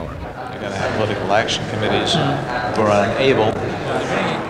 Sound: men conversing

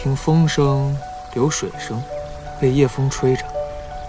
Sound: the sound of water, and the sound of being blown by the night wind

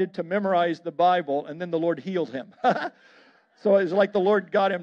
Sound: laughs

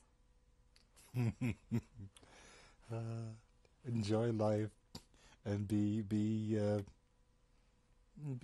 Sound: laughs

